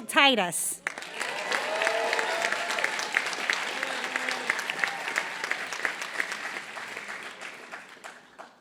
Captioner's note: applause